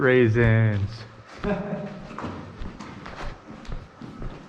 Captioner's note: laughing